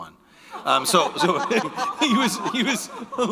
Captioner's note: all laughing